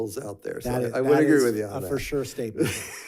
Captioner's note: chuckles